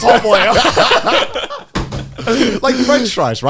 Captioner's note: hosts laughing